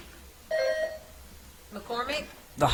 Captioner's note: bell ringing